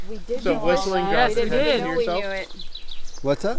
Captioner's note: people chattering